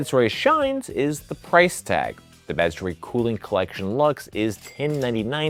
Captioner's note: cash register ringing